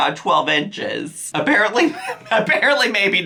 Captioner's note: chuckles